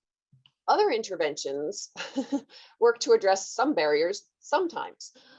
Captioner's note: laughs